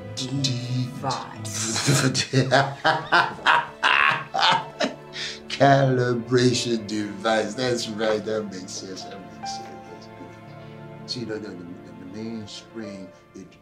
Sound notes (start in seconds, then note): 1.4 laughs